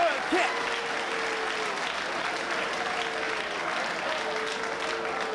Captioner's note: spectators applauding